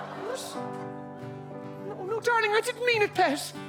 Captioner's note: awws from Audienc